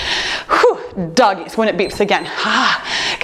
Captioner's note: timer beeps